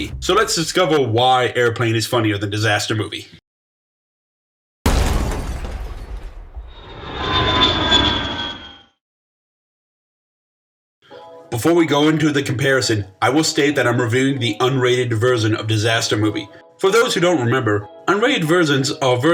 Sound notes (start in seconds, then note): 4.8 thud; 6.7 airplane landing noise